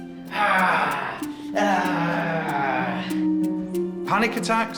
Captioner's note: growls